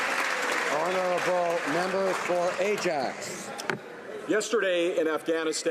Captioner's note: some Applause